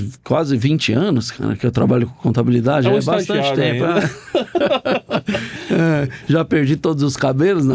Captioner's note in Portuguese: risadas